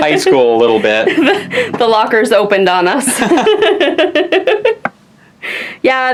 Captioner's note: laughs